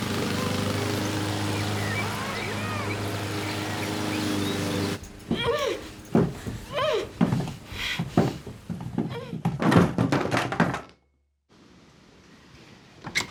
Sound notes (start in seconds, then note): 0.0 lawnmower engine roaring; 0.0 distant muffled yelling; 5.3 grunting; 9.6 clattering